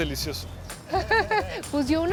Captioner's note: laugh